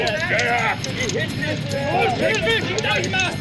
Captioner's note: speaking german